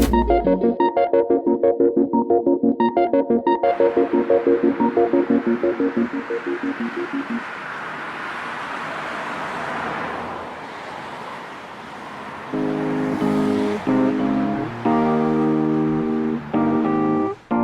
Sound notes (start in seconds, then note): 7.4 sounds of traffic; 12.5 electric piano